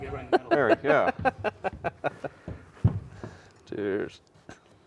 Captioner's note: laughing